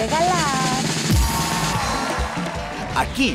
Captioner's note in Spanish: Ovación